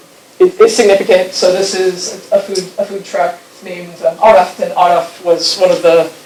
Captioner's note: speaking foreign language